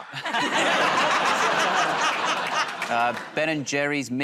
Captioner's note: laughter